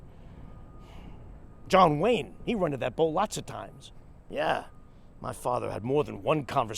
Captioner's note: sighs